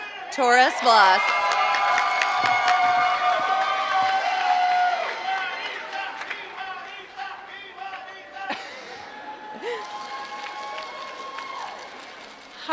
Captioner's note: applause